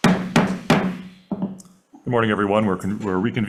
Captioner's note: gavel bangs